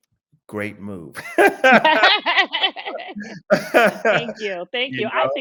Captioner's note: both laughing